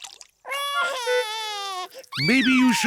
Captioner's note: cries